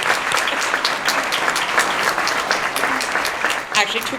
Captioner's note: applause